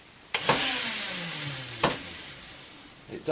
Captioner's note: motor turns on for a second